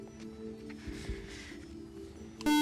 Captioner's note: beep